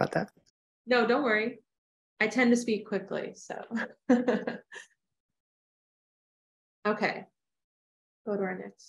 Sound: laughter

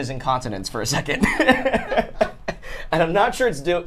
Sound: all laugh

